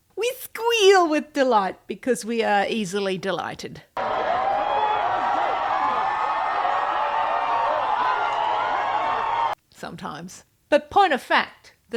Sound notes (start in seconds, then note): 4.0 sounds of people losing their minds